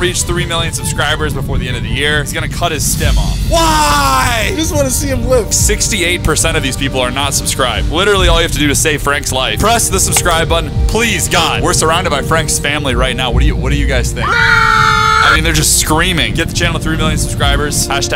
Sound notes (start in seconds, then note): 14.2 screaming sound effects